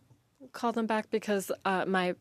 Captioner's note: speaking French